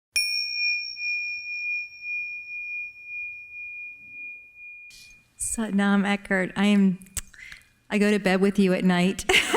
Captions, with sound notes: (chiming) - Satnam Eckhart, I go to bed with you at night.